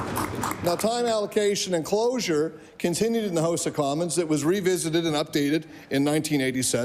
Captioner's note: applause